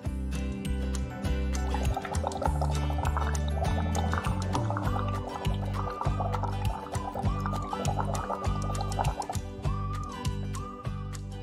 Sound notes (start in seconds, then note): 1.4 happy whistling music; 1.6 water bubbling